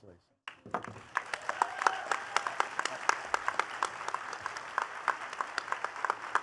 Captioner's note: attendees cheering and clapping